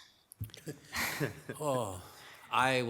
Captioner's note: chuckles